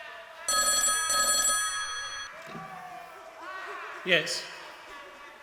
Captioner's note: phone rings